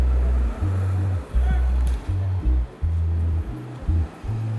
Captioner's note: distant fim production chatter